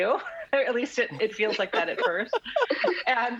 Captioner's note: laughs